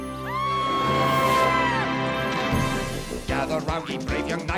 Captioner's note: screaming